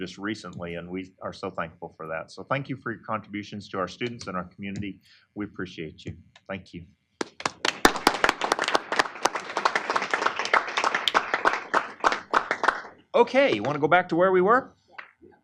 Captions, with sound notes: recently, and we are so thankful for that, so thank you for your contributions to our students and our community. We appreciate you. Thank you. [APPLAUSE]. >> Okay. You want to go back to where we were?